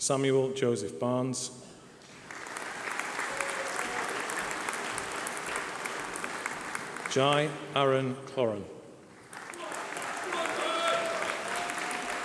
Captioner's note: applause